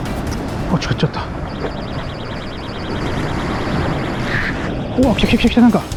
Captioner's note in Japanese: 突然鳴り出したバイトアラーム！！